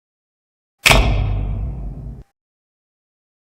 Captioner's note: ka-thunk of an old fashioned spotlight